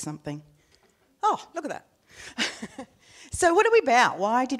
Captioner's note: laughing